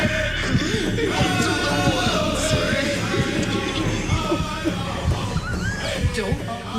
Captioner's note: drums beating; voices chant; Lenny speaks foreign language